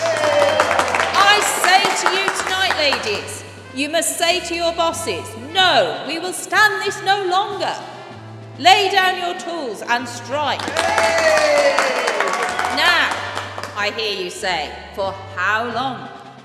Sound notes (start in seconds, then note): 0.0 cheering resumes; 10.6 cheering